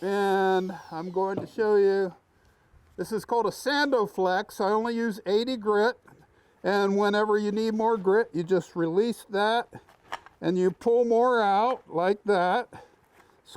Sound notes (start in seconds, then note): none